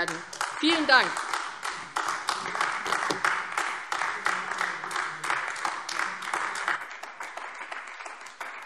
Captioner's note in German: Beifall AfD